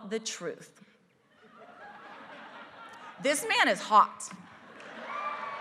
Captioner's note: laugh; applause